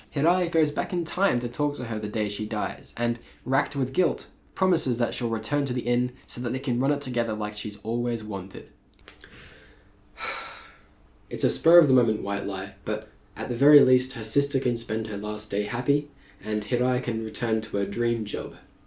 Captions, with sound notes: Hirai goes back in time to talk to her the day she dies and, wracked with guilt, promises that she'll return to the inn so that they can run it together like she's always wanted *sigh* It's a spur of the moment white lie but, at the very least her sister can spend her last day happy, and Hirai can return to her dream job